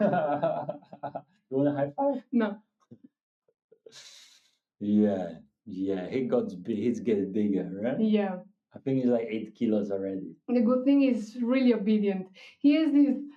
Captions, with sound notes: (laughing) You wanna have? No. Yeah, yeah, he's getting bigger, right? Yeah. I think he's like eight kilos already. The good thing is really obedient. He has this